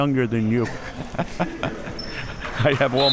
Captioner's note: chuckles